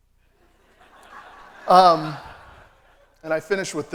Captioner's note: laughter